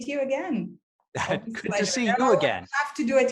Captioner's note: chuckling